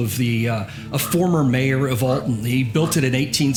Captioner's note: crow cawing